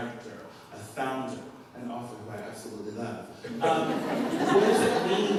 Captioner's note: laughter